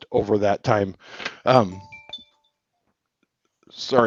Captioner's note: phone rings